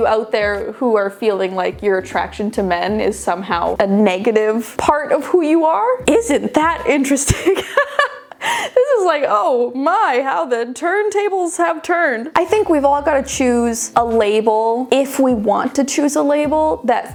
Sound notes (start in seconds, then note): 7.2 laughing